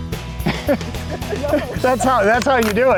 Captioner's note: laughs loudly